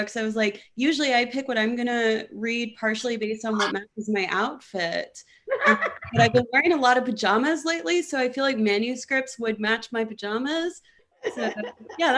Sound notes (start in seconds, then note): 5.5 laughing; 11.2 laughing